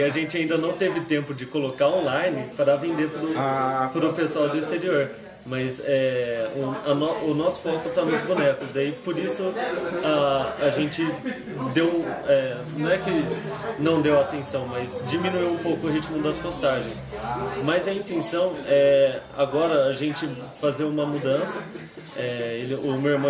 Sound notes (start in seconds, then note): 11.1 hehehe